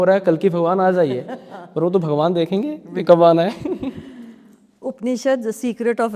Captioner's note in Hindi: हंसी